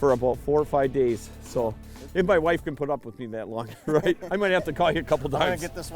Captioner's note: laughing